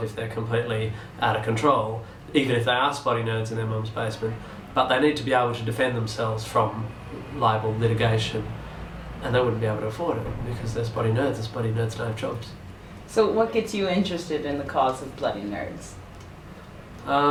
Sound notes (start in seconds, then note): none